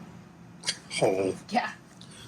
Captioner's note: laughs